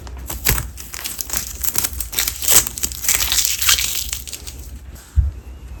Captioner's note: crinkling sound